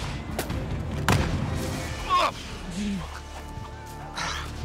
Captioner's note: grunts